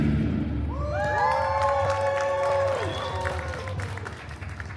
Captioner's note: guests cheering and applauding